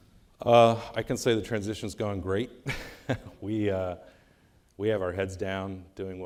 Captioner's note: laughing